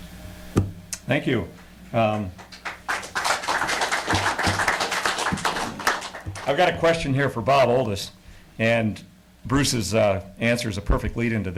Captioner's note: applause